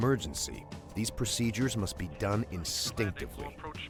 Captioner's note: voiceover